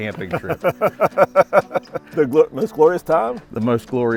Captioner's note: laughs